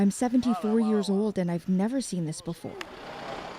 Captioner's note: speaking alternate language